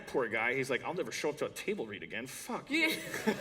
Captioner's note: laughter